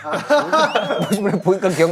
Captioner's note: laughing